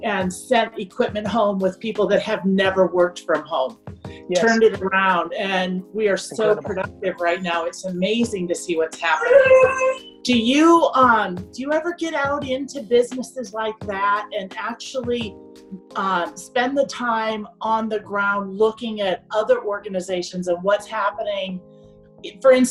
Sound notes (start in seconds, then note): 9.2 dog yowls